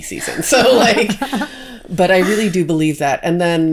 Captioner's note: both laughing